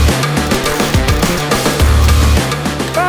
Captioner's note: welder sparking; upbeat rock music continues